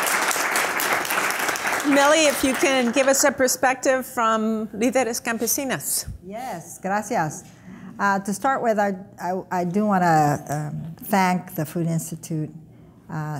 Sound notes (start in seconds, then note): 0.0 audience applause; 7.4 speaking foreign language